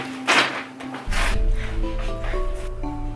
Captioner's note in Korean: 킁킁